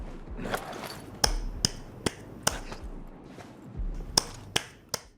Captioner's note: asscheeks clapping sounds